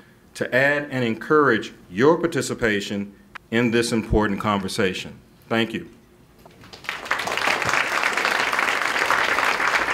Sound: clapping

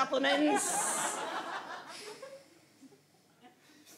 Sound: audience laughs

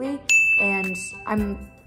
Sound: bell dings

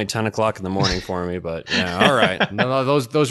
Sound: laughs

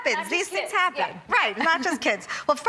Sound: laughing

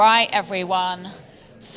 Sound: audience chattering

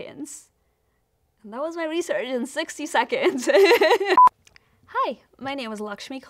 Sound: laughs

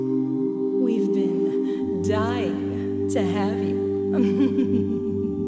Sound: creepy laugh

